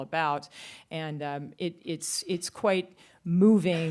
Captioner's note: none